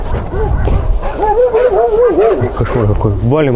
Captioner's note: dogs barking